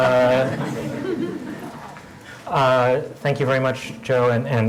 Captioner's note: laugh